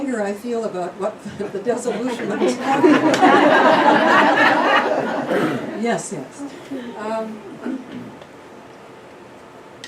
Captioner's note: laughter